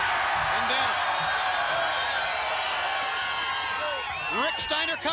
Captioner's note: crowd cheering